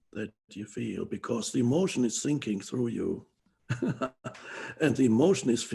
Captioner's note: laughs